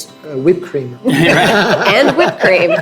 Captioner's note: group laughing